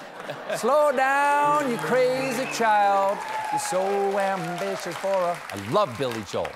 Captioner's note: laughter